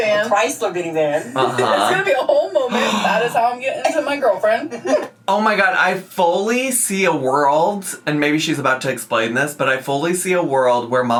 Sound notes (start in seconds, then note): 2.7 gasps